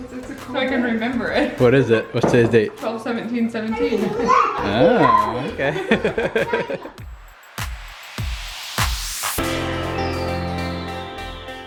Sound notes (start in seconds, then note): 6.0 laughs; 7.8 upbeat music